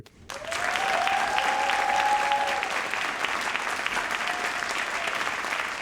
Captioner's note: audience cheering and applauding